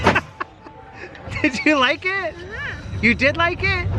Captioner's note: laughs